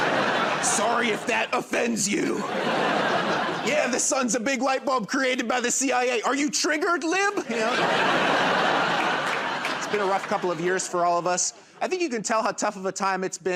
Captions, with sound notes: [ Laughter ] "Sorry if that offends you." [ Laughter ] "Yeah, the sun's a big light bulb created by the CIA. Are you triggered, lib?" You know? [ Laughter ] It's been a rough couple of years for all of us. I think you can tell how tough of a time